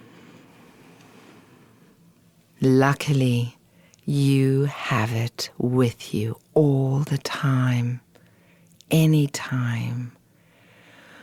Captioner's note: exhale